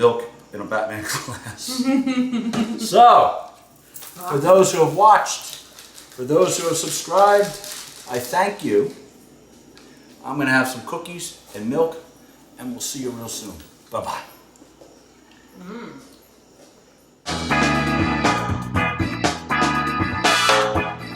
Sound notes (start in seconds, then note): 2.6 laughs